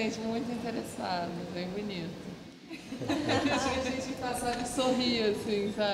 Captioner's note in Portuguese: risos coletivos